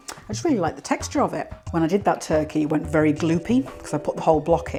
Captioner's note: none